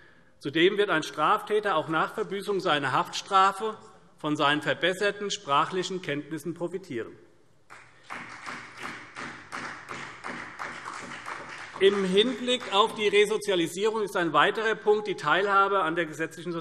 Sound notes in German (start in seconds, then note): 7.7 Beifall CDU